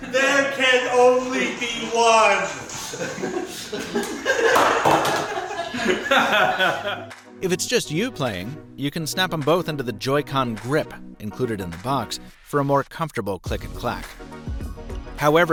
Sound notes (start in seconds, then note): 4.2 both laughing